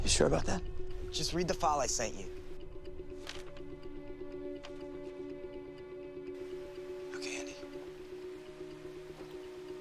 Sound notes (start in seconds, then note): 3.2 paper rustles